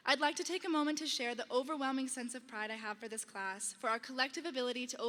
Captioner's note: none